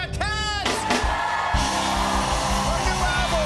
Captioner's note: cheers and applause